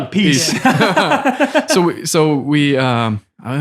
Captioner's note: all laughing